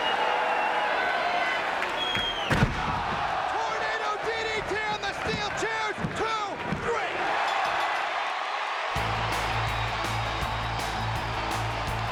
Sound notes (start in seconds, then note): 0.0 crowd cheering; 2.4 bodies slamming; 7.3 crowd cheering; 8.9 upbeat music